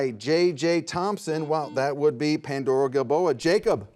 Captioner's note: buzzer buzzes